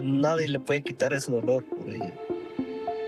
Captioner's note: speaking in a non-english language